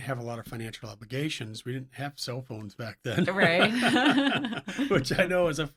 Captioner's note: laughs